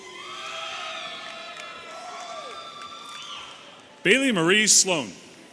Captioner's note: audience cheering and whistling